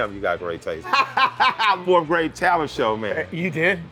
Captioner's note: laughs